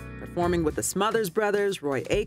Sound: voiceover

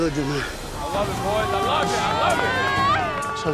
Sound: cheering

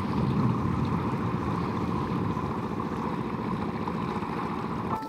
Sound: water gushing

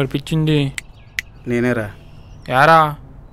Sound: snapping fingers

